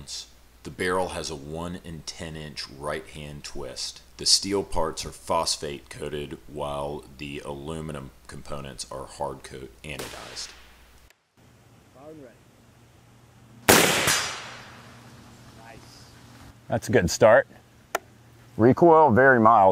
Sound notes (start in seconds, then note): 13.6 rifle fires; 15.5 voiceover